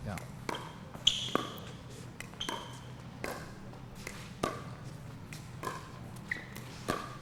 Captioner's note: shoes squeaking; ball being hit